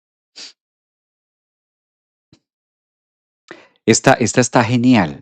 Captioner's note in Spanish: resoplido